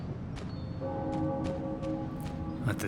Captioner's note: deep bell chimes